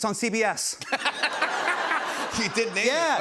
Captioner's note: laughter